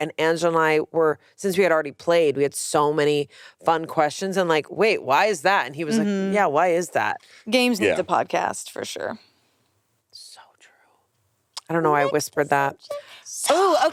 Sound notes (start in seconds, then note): none